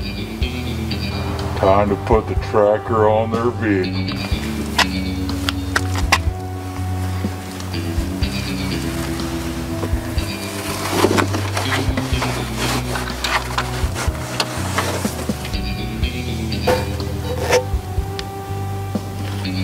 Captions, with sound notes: Time to put the tracker on their vehicle. (metal clicking)